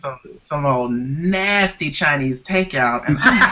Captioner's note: laughter